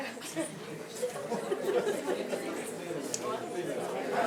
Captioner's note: soccer team laughing